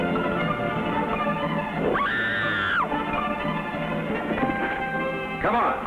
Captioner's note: Sandra screams